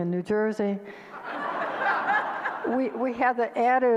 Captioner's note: audience laughter